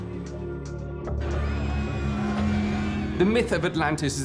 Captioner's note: screams of panic